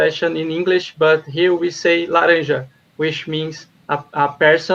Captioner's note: speaking foreign language